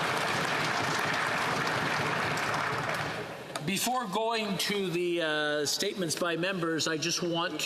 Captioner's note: applause